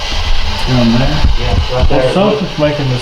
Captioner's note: thudding